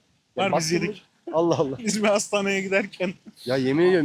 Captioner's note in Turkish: kahkaha